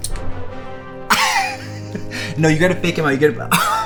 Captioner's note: laughs